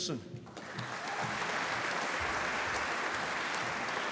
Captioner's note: applause